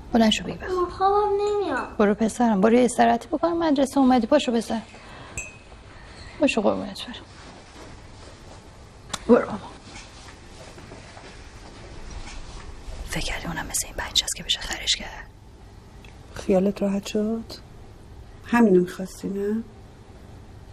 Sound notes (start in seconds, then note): 9.5 smooching